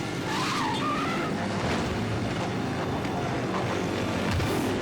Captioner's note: tires screeching